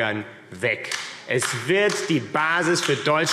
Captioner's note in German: Beifall AfD